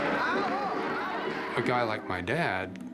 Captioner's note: crowd cheers